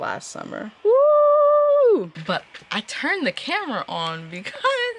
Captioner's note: excited screaming